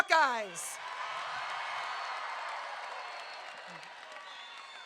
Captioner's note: crowd cheering